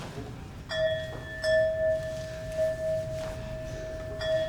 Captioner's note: bell chiming